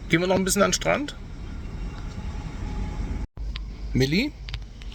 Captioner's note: speaking German